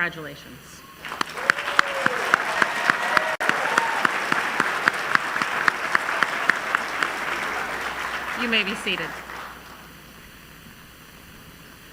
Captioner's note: applause